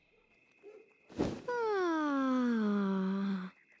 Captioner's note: yawning